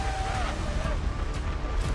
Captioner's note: screaming; dramatic music